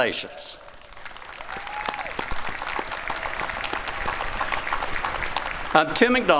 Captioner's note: applause